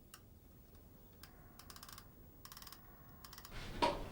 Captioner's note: clock spring